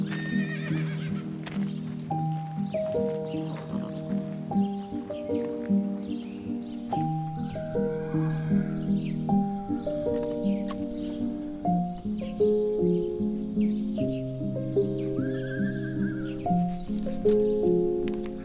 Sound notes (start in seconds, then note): 0.0 horses whinnying; 3.1 birds chirping; 7.7 horse braying; 7.8 horse neighing